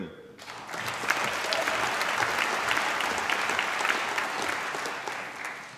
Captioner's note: applause